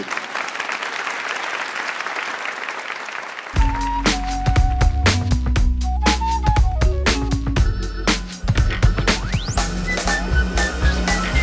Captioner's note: applause